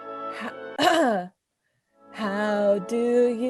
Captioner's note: clears throat